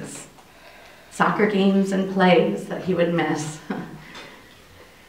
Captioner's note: chuckling incredulously